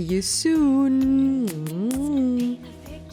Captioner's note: kisses